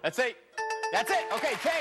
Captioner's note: bell rings